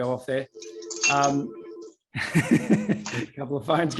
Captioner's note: phone ringing